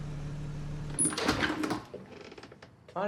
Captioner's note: door opening